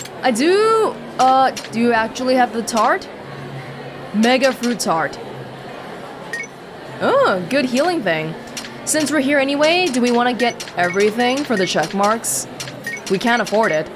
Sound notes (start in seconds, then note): none